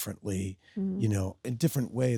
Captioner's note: Sydney hums